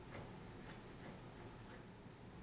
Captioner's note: pencil scraping; circulating air humming